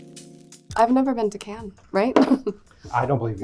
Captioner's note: upbeat hip-hop music; laughs